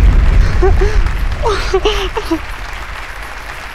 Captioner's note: Crying